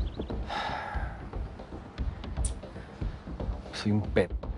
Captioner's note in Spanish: Suspiro